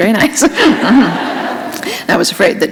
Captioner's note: laughter